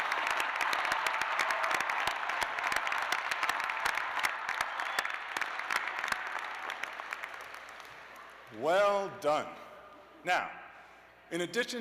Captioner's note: cheers and applause